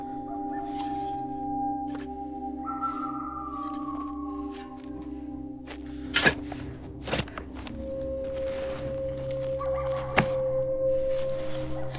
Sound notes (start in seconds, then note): 3.1 coyotes howling; 3.1 coyotes yipping; 5.9 shovel scraping